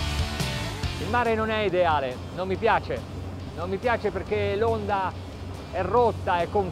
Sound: speaking in foreign language

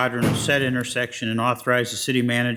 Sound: object slams

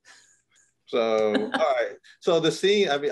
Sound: chuckles

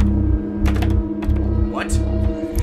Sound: locked doorhandle jittering

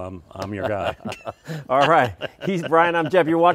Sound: both laughing

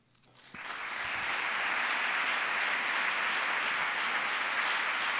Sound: audience applauding

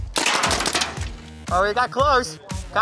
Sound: car clatters

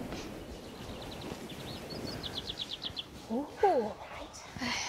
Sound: birdsong

